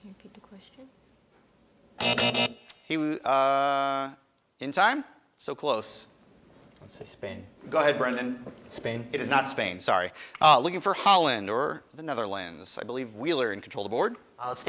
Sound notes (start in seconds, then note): 2.0 alarm buzzes